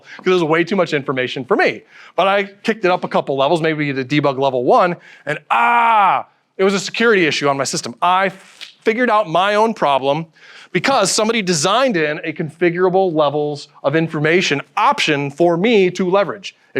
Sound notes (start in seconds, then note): none